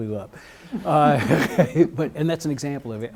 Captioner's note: laughs